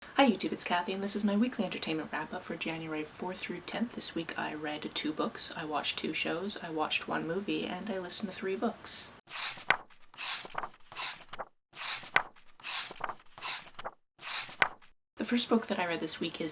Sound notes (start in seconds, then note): 9.3 pages turning